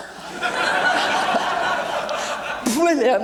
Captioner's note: audience laughing